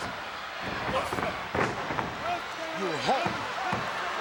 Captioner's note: Hulk thuds